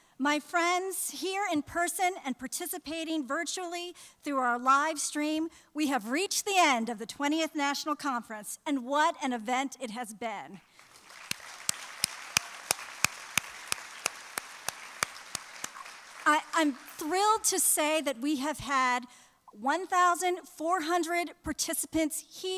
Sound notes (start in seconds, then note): 14.9 applause